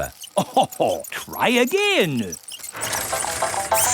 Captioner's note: chuckles